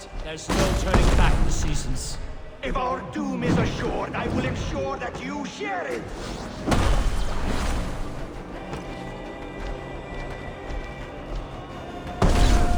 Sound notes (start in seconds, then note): none